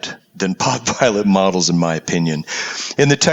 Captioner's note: laugh